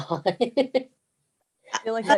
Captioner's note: laughter